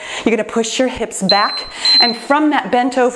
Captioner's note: timer beeps